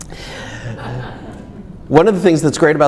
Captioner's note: inhales deeply; audience laughs